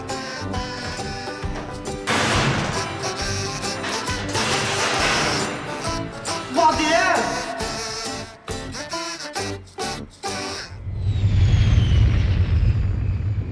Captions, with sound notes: (door rattling) - What the hell?